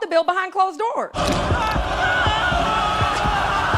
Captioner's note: man screaming